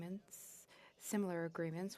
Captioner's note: speaking French